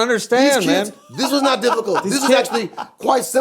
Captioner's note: laughing